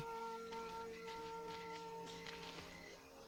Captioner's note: whispering